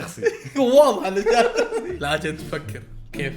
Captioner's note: both laugh